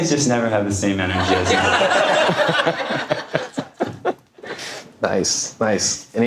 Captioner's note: audience laughing